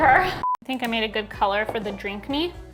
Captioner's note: screen beeps